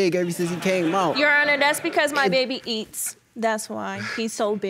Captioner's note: audience laughing